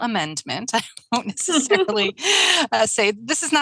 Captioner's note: laughs